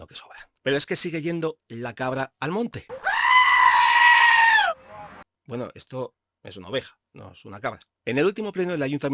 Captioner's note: sheep bleating